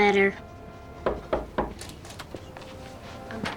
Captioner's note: knock on door